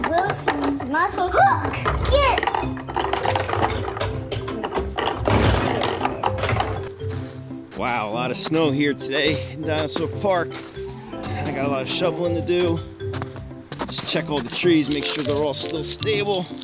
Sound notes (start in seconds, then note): 11.3 footsteps crunch in snow